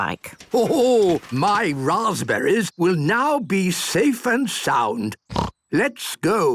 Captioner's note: snort